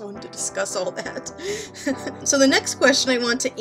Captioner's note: laughing